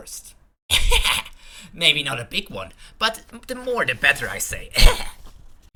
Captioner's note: laugh